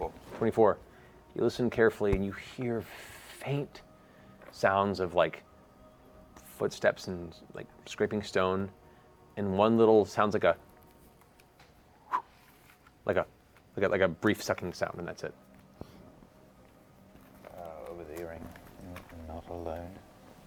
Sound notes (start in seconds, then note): 12.0 whistle